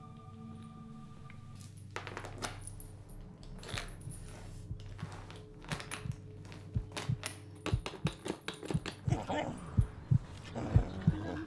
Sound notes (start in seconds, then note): 3.7 slow Heartbeat Sound